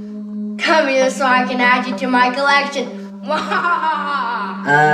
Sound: evil laugh

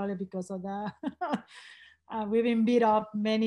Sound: laughs

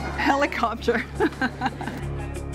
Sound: laughs

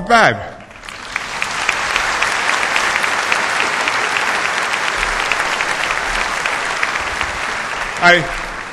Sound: applause

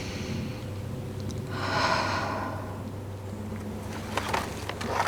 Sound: sound of inhale and exhale

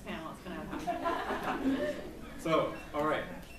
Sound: laughs

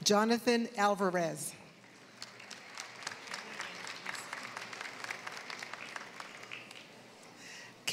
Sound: applause

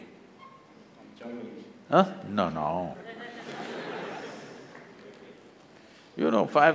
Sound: laughter

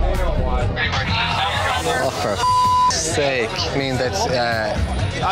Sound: beep

